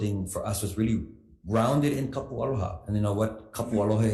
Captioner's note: speaks foreign language